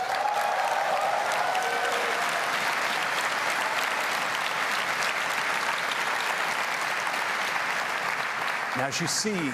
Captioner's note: applause